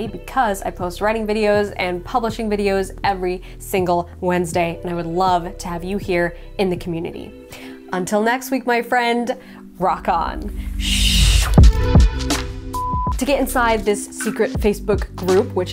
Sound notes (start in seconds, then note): 11.7 groovy music; 12.7 beeping